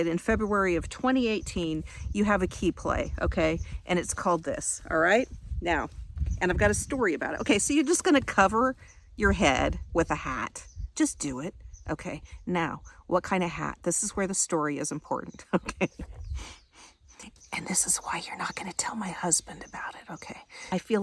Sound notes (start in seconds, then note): 15.5 laughing; 17.9 whispering